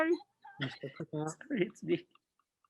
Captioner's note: laughing